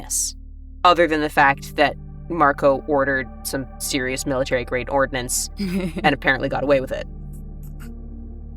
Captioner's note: chuckles